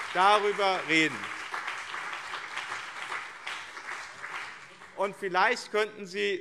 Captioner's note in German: Beifall BÜNDNIS 90/DIE GRÜNEN und CDU